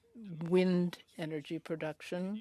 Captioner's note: speaking French